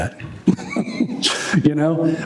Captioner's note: laughter